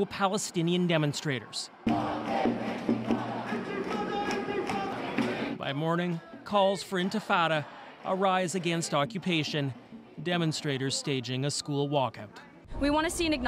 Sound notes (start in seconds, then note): 1.7 chanting